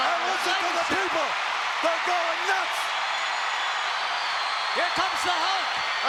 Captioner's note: crowd cheering